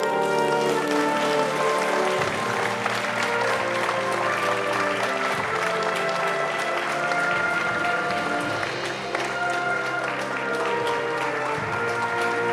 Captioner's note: applause